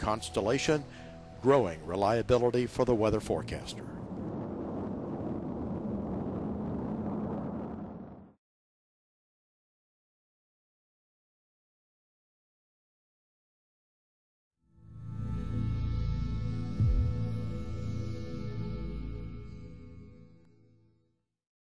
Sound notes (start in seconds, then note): 5.8 launching rocket sound